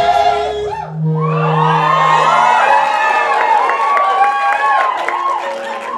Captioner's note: audience cheers